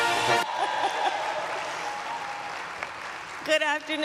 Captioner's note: applause